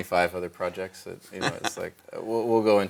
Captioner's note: laughs